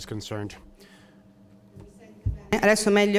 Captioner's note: speaking Italian